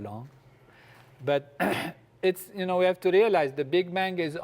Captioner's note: cough